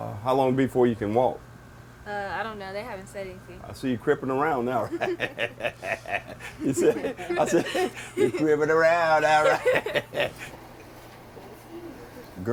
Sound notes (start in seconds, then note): 4.8 laughs; 9.7 laugh